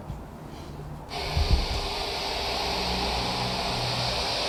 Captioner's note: static hisses